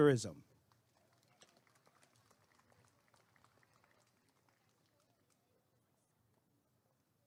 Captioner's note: applause and cheering